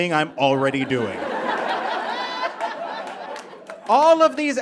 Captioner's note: audience laughs